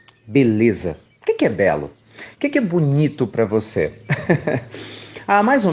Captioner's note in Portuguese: Risos